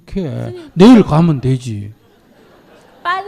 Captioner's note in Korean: 청중 웃음